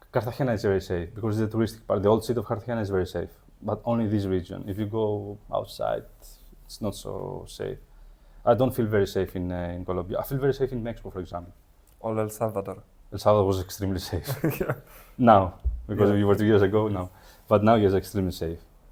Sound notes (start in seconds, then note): 14.1 laughs